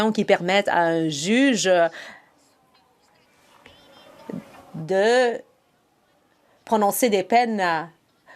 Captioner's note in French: voix de l'interprète